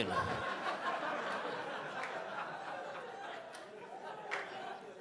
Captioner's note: audience laughing